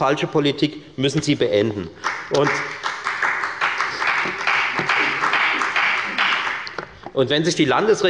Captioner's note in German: Beifall bei der FDP